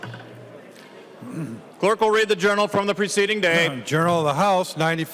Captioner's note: gavel